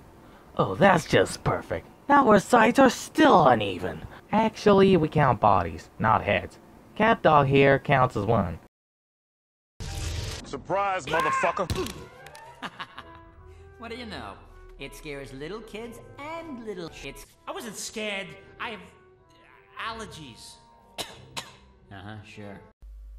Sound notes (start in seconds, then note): 11.1 screams; 12.3 laughs; 20.9 cough